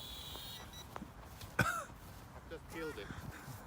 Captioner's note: chuckles